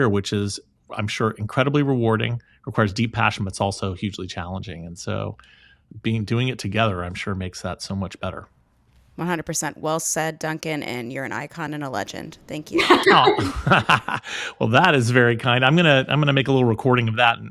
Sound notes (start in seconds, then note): 12.7 laughing; 12.7 laughs